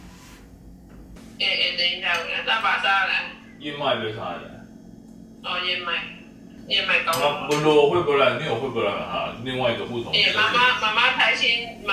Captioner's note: speaking Burmese with my mom